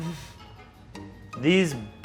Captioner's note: chuckles